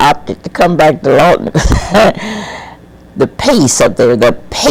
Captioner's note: laughs